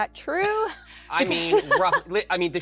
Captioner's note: laughs